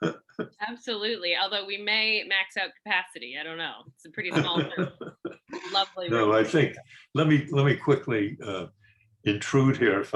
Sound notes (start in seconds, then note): 4.3 laughs